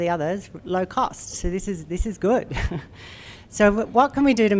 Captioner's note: chuckles